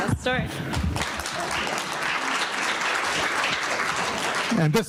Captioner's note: audience applauding